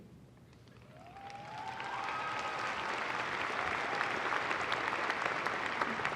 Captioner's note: applause